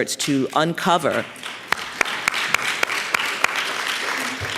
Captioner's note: applause